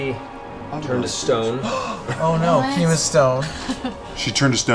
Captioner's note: gasps